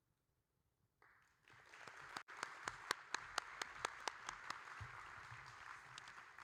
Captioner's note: audience and applauding